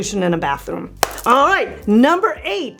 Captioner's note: claps